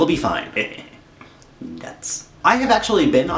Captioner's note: giggles